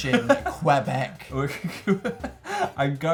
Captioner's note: laughs